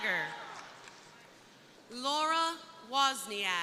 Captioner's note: crowd cheering